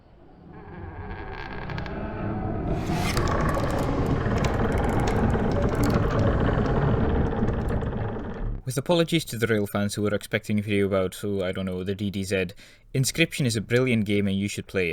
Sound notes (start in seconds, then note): 0.1 creaking